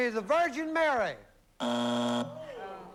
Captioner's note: buzzer